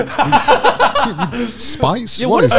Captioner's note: laughing